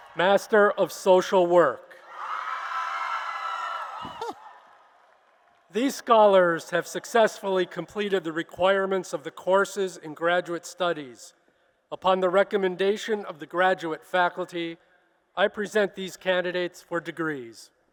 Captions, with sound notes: Master of Social Work. [applause and cheers] These Scholars have successfully completed the requirements of the courses in graduate studies. Upon the recommendation of the graduate faculty, I present these candidates for degrees.